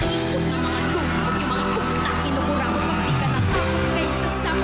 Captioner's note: audience cheering